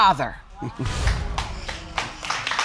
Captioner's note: chuckles; audience applauding